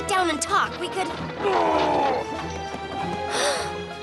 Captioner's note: growls; gasps